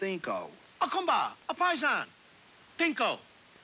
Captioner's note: speaking in Italian